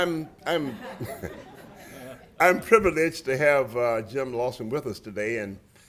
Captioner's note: laughter